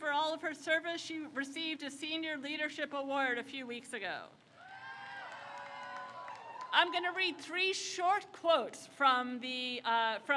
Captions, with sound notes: And in recognition for all of her service, she received a senior leadership award a few weeks ago. (crowd cheers) I'm gonna read three short quotes from the,